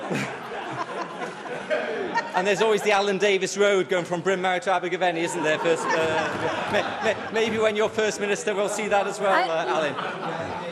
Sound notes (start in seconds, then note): 6.7 laughter